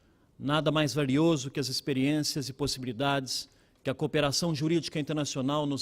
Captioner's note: speaking Portugese